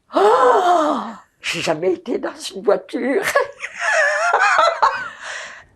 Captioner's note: laughing